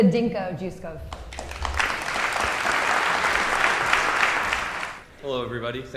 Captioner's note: audience applauding